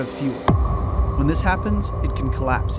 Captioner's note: bass thud